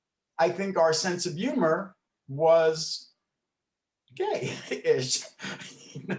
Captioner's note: laughs